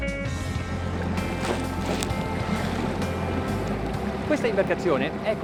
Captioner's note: water splashes; speaks in foreign language